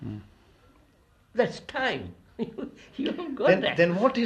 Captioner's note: laughs